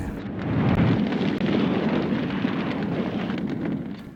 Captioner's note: fire crackling